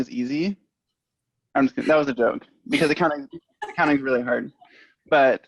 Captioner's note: laughter